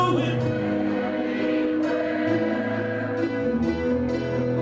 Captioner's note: crowd